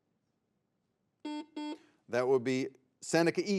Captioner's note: buzzer beeps